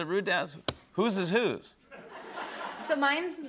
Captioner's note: laughter